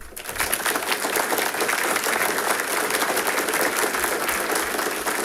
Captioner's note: audience applauding